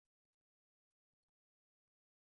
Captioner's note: none